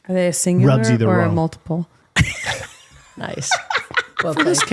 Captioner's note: laughing